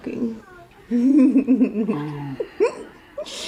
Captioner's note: laughing